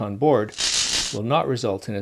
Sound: electricity crackling

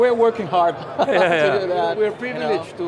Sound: laughs

